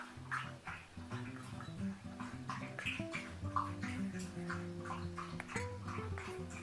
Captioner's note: this is the sound of my dog drinking water